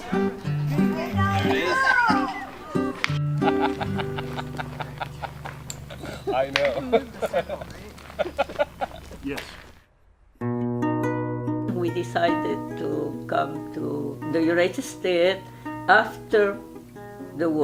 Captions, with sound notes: (music strumming) (man laughing) - We decided to come to the United States after the war.